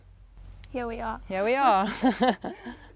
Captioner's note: laughter